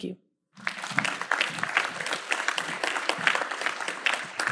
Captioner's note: audience applauds